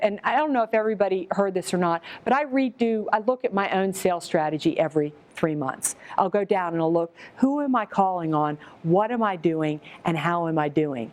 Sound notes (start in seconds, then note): none